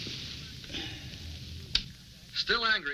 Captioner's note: TV announcing news